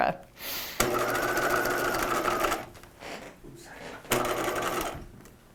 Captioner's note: machine whirring